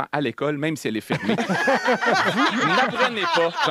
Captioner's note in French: rires